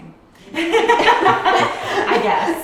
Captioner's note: laughing